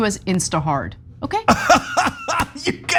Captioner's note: laugh